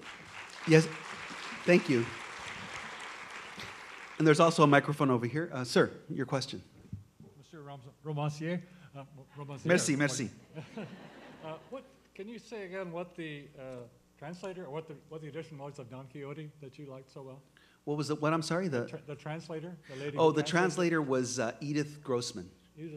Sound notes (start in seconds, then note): 7.8 voiceover; 10.8 voiceover; 19.1 voiceover